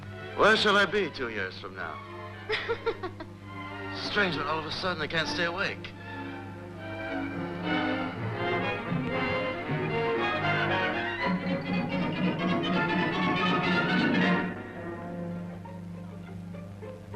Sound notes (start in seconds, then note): 2.4 laughing